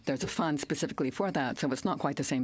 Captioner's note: speaking french